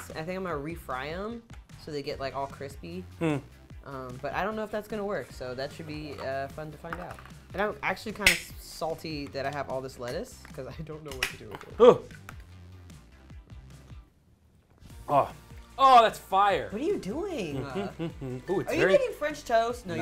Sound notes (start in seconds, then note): 11.8 groans; 17.5 laughs